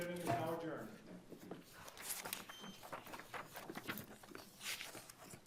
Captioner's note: papers rustling